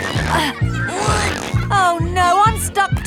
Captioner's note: grunting